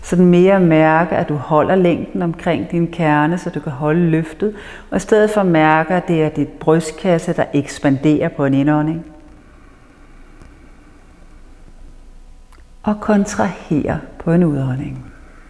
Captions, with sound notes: You should feel that you are holding up the length of the core in order to keep the lift - and instead feel like it is your chest that expands through the inhale (inhales) - and contracts through the exhale